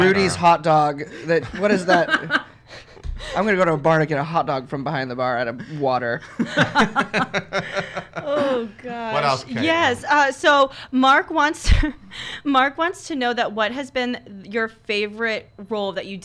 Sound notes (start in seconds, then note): 6.4 laughs